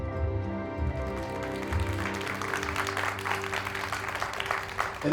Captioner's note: people clapping